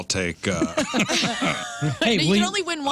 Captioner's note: laughing